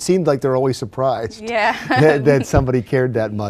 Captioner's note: laughs